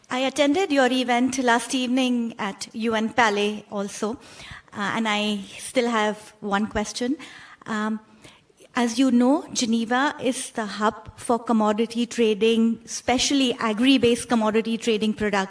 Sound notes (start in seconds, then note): none